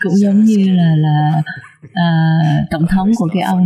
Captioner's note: laughter